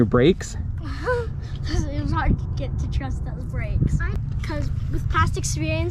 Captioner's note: laughs